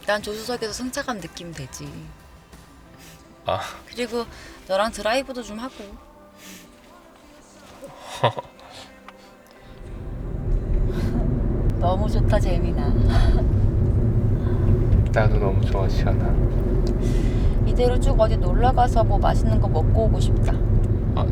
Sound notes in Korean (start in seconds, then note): 9.2 콧방귀